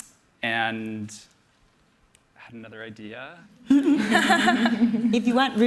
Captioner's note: laughter